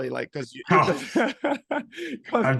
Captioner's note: laughing